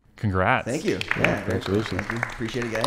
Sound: applauding

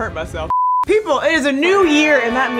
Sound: screen beeping

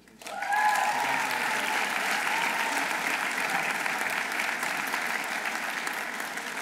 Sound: audience applauding; audience cheering

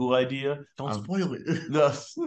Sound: laughs

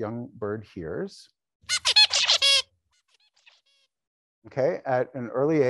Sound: bird singing

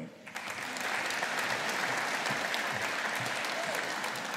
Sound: audience applauding

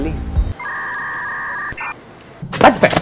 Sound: siren

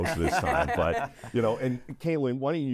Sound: interviewees chuckle

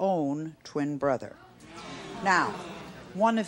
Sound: audience gasping

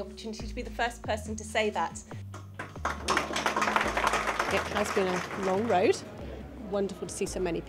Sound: applause

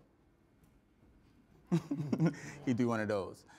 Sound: chuckles

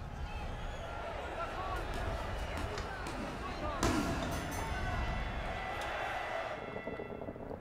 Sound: crowd cheering, bell dings

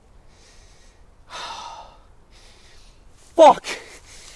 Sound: tourist sighs

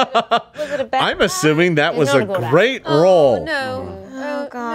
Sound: laughs

